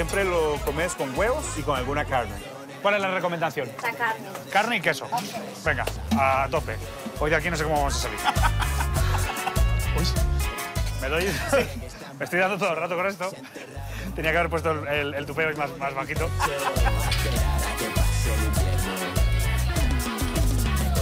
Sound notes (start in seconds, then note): 8.1 laughs; 11.9 laugh; 16.2 laughs